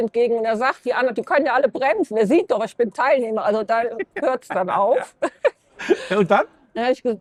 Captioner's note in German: gelächter